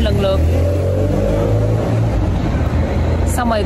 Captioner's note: wait for the noisy car to pass